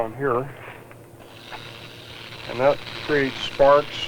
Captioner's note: sparking